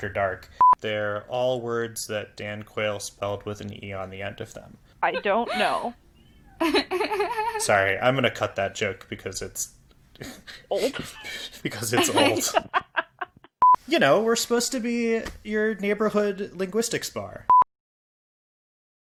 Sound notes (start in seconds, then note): 6.6 laughs; 10.2 laughs; 10.8 ALL laugh